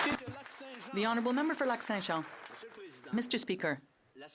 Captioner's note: some Applause